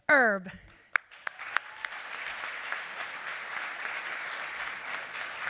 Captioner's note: applause